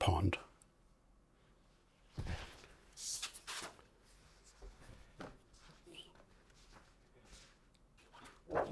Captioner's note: silence